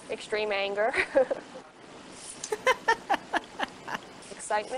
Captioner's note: laughing in background